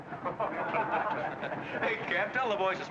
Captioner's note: men laugh